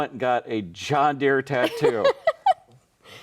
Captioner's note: laughing